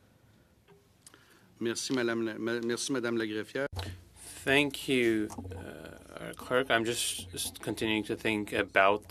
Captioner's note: speaking French